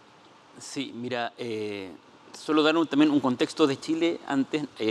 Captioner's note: speaking Spanish